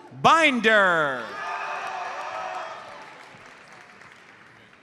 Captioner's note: audience cheers and applauds